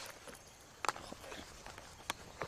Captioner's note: whispering